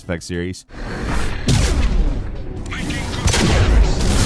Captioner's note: Shepard whooshes